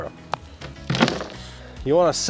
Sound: wheelbarrow clunking

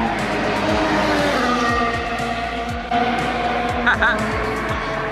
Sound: race cars roaring

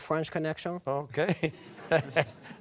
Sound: with French accent

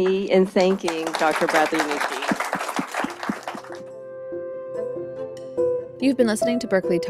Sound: applause

